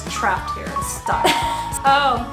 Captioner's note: chuckles